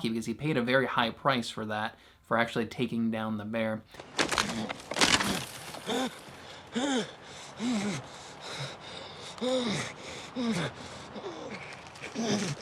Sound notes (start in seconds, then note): 3.9 bones crushing; 4.5 glass groaning